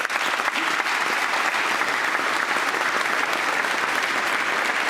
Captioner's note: applause